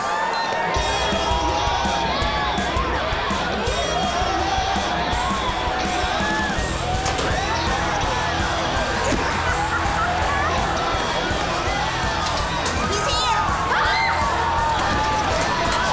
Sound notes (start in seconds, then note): 8.6 laughing; 13.3 shrieking